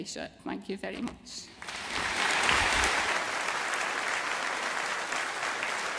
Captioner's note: audience applauding